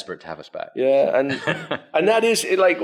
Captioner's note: laughs